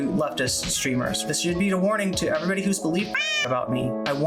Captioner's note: meow